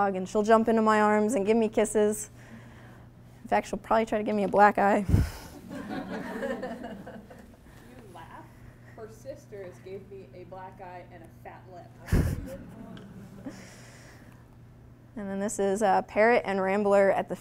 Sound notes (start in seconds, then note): 5.6 audience laughing